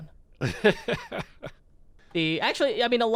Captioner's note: chuckling